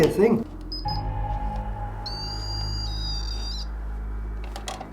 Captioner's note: machine beeping